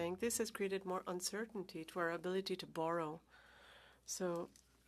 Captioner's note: speaking French